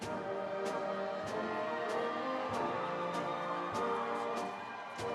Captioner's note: audience cheering